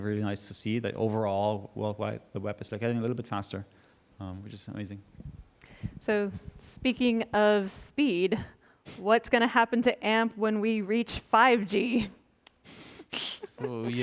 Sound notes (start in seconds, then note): 13.2 chuckling